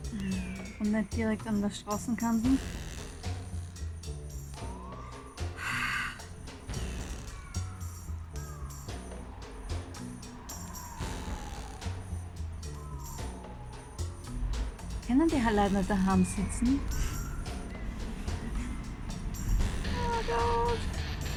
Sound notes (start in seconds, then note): 6.5 blues music; 17.9 laughing